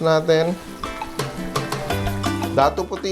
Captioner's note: sizzles